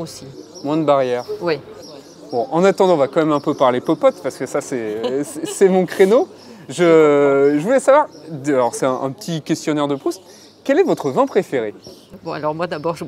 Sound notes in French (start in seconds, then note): 4.7 rire